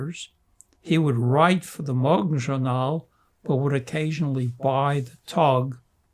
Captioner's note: non-english